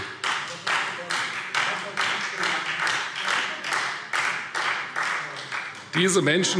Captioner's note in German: Beifall Freie Demokraten